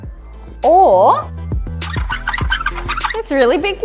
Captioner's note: squeaky wheels